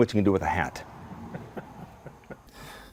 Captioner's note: laughter